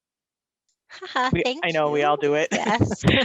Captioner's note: laughs